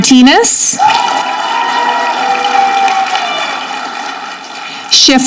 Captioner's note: audience clapping